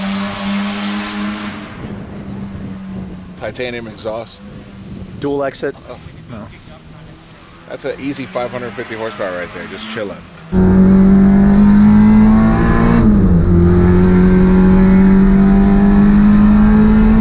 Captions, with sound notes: Titanium exhaust - Dual exit - No that's a easy 550 horsepower right there just chilling. (car engine)